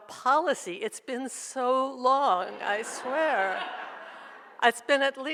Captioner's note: audience laughs